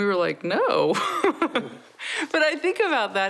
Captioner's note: laughs